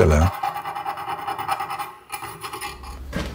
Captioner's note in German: Metallisches Schaben